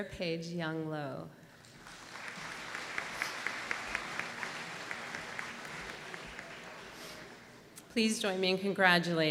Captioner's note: applause